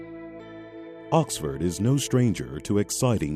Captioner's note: soft music; voiceover